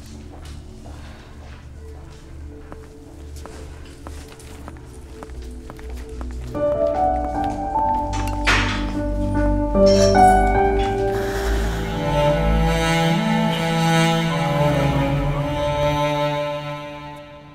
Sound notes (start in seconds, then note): 9.7 Lock-up door closes; 10.8 Gauravi sighs